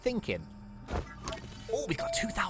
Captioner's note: machine rings